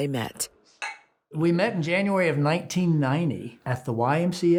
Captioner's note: glasses clink